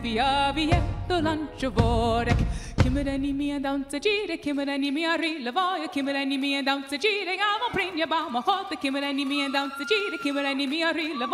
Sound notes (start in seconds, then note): 5.7 singing in foreign language; 7.6 cheering